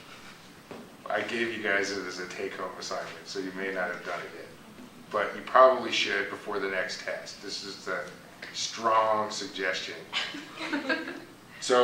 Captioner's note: laughter